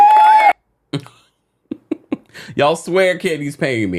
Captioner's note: crowd applauds; laughs